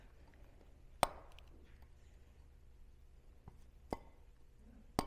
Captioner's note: metal hammering